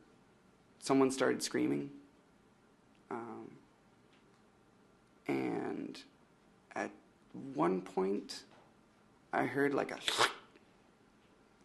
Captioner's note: imitates thwacking slash